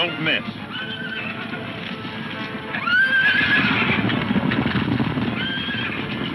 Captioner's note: hooves thundering; horses neighing